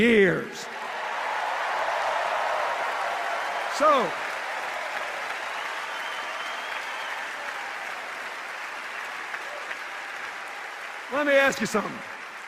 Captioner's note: sustained cheers and applause